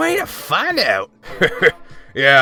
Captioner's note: chuckle